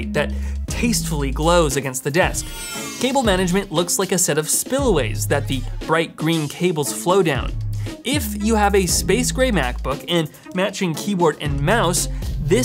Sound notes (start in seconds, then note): 2.6 energy hums